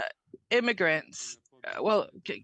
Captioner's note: speaking French